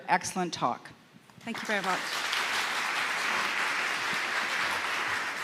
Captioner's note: audience claps